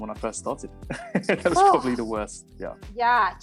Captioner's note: laughing